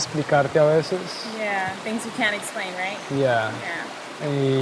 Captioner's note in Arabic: باللغة الإنجليزية